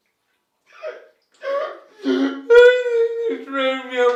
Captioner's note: man sobbing